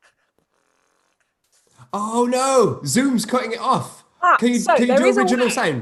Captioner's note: beatboxes, but the sound fades quickly